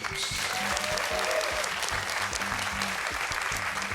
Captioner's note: cheers and applause